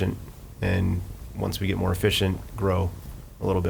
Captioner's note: none